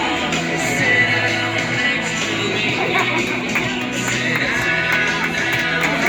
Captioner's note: laughter/applause